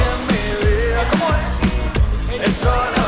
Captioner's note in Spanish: en inglés